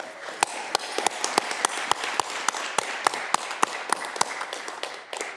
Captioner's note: audience cheering